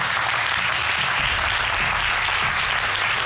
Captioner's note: audience applauding